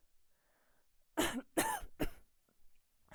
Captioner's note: coughs